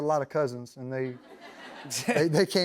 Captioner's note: laughter